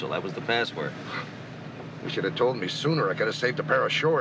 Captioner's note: huffs